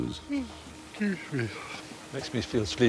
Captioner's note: yawning